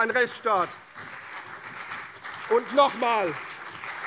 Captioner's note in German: Beifall CDU, vereinzelt BÜNDNIS 90/DIE GRÜNEN und AfD